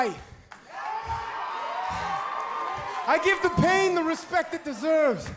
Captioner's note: crowd cheering